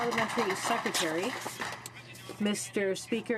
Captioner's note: some Applause